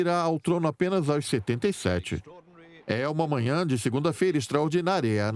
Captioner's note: voiceover